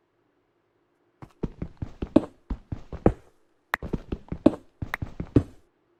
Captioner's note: thumping and clicking noise